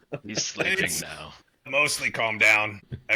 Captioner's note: laughs